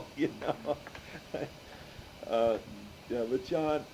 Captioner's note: laughs